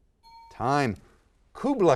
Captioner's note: ding